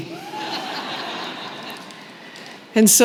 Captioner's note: laughter